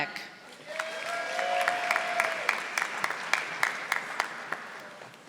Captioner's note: audience applauding